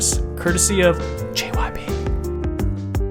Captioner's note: whispers